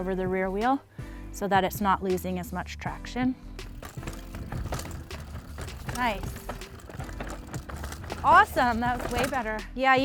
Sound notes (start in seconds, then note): 5.5 bike zooming